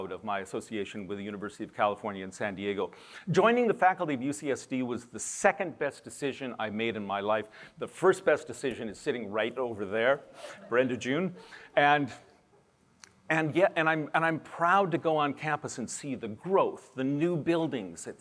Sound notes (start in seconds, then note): 10.2 laughter